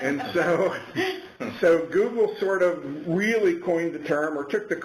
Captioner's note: laughter